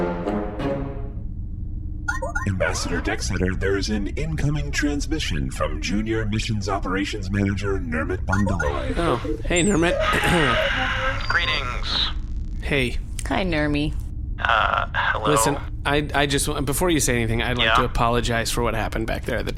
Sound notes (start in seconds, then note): 2.4 static again, into the end of the Music transition; 3.9 Back on Bargie. Incoming transmission beep-boops, transmission connects